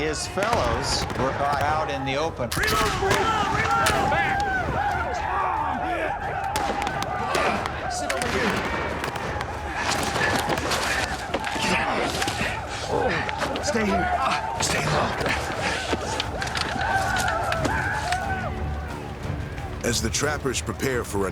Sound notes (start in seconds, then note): 0.0 gunshots, whooping; 3.6 gunshots, whooping; 12.5 panting, groaning